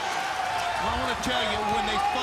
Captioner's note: crowd cheering